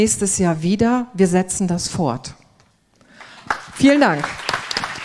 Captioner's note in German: applaus